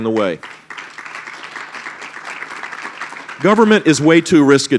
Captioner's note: applause